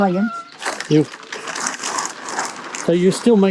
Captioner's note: plastic rustling